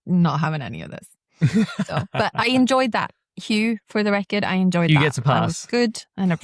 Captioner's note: laughs